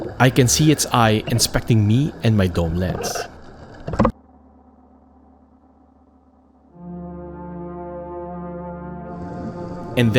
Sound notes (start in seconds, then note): 3.9 image clunks; 6.8 solemn music